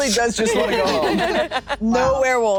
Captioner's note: group laughing